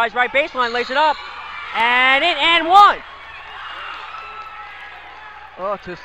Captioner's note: crowd cheers